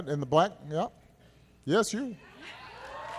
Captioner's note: applause